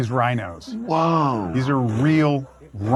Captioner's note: rhinos grunting